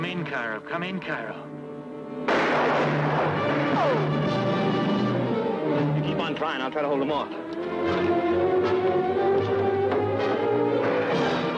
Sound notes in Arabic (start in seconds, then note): 2.2 إطلاق نار; 2.2 موسيقى قوية; 8.7 موسيقى مكثفة